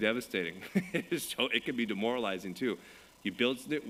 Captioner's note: laughs